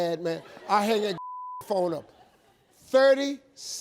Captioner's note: beep